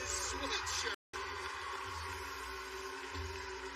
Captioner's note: cheers and applause